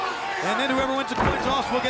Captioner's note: springboard banging